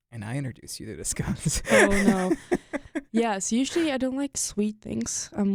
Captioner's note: chuckles